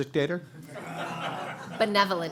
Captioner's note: audience laughing